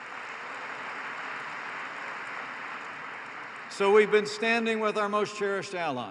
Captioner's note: applause